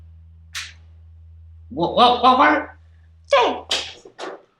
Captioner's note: scoffs